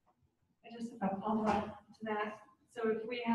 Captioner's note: mic glitch